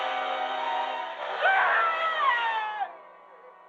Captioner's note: screaming